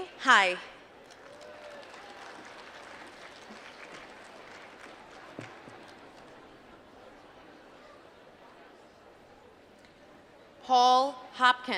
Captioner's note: applause